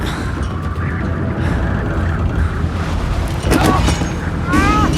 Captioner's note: iain breathes heavily